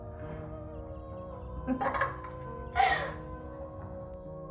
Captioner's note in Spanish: risas